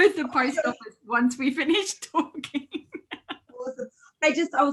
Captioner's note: laughs